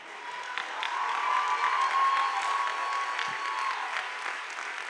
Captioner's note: audience applauding